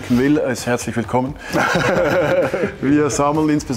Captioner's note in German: Gelächter